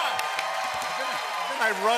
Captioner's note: cheering and applause